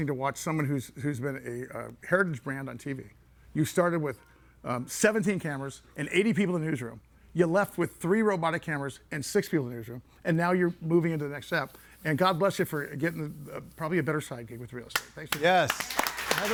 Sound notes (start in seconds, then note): 15.2 clapping